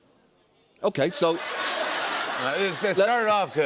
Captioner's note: laughter